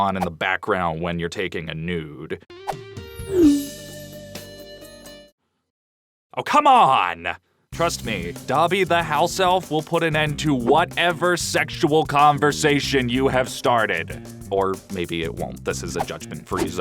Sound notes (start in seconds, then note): none